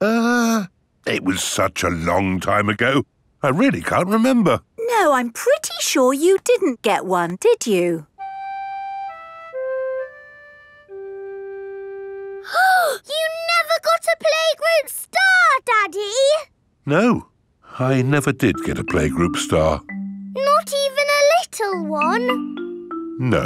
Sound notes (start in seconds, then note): 12.8 gasps